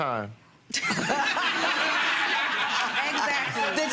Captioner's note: audience laughing